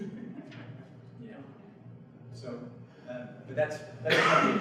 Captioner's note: audience chuckles